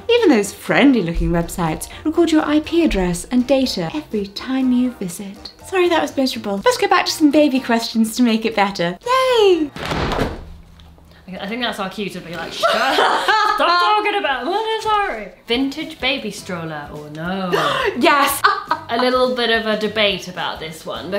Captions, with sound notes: and even those friendly-looking websites record your IP address and data every time you visit. Sorry, that was miserable. Let's go back to some baby questions to make it better. Yay! (thuds) - I think that's our cue to be like, "Shut up, stop talking about Montessori." "Vintage baby stroller, or no?" - (gasps) Yes! (laughs) - A little bit of a debate about this one,